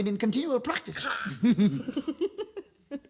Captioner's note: laughs